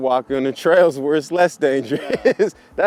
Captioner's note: laughs